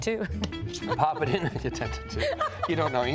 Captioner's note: laughing